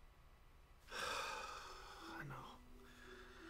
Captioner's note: Mark sighs